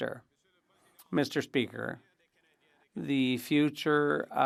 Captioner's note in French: voix de l'interprète